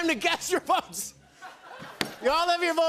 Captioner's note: laughter